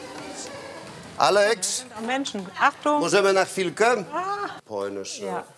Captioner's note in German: spricht polnisch